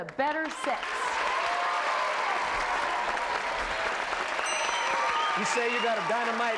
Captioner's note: cheers and applause